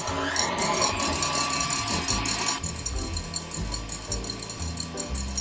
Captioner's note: electric whisk whirring